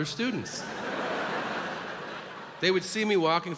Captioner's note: audience laughs